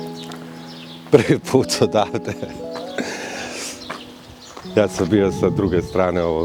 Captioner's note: laughs